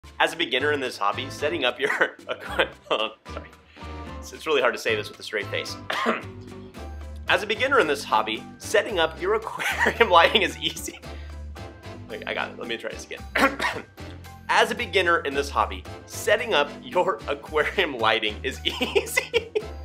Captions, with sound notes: - As a beginner in this hobby, setting up your (laughs). Hold on, sorry. So, it's really hard to say this with a straight face. (clears throat) As a beginner in this hobby, setting up your aquarium (chuckles) lighting is easy. Wait, I got it. Let me try this again. (clears throat) As a beginner in this hobby, setting up your aquarium lighting is (laughs) easy.